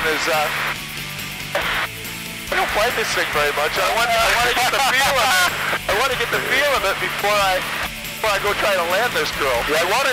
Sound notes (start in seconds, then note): 5.8 laughs